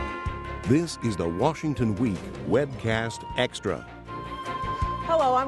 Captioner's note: apprehensive music; voiceover